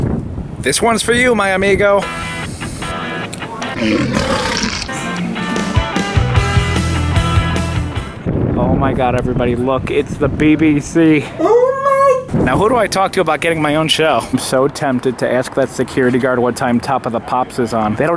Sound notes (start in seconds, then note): 2.2 lion roaring; 2.2 upbeat music